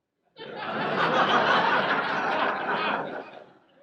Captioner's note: audience laughs